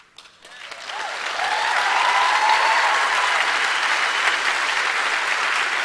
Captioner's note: applause and cheers